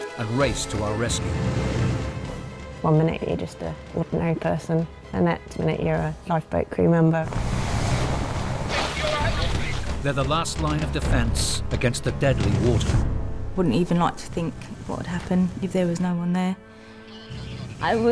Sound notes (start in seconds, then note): 1.2 boat droning; 1.2 water whooshing; 7.3 wind whooshing